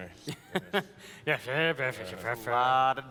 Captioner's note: mumbles along